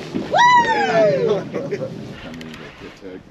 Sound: whooping; laughing

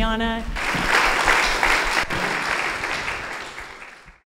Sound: audience applauding

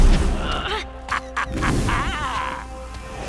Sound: evil laughter

